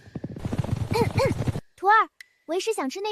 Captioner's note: cough